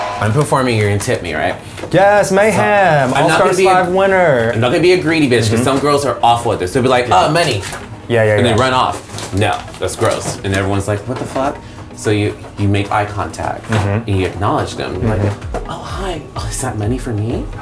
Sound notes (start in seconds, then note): 8.4 money crinkles